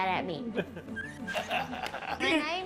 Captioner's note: laughing